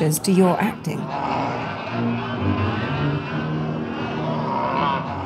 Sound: noise of a crowd jostling and Centaur roaring

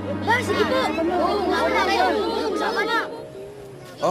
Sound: chattering

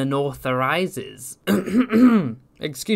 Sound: ahem

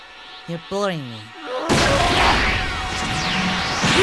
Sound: mega-angry noises

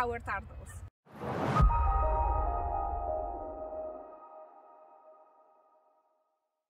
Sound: logo whooshes; bright music

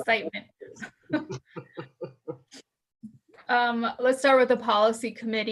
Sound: chuckling

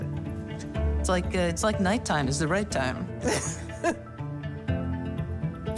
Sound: laughs

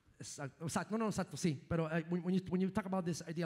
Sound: speaking in foreign language

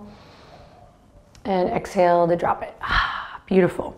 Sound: sighs

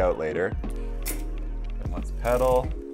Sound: gear clicks

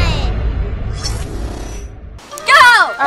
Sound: energy whooshing

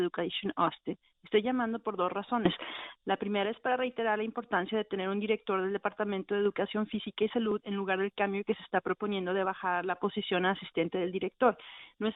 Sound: speaking spanish

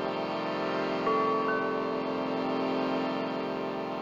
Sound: ringing

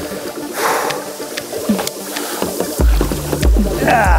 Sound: puffing

